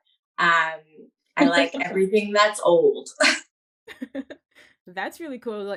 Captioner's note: chuckles